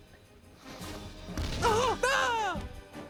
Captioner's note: screams